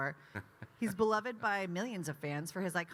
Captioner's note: Kyle laughing